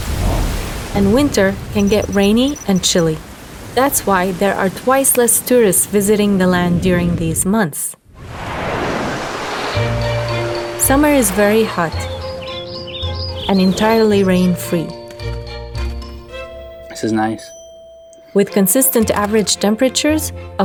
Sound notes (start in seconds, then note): 12.1 birds chirping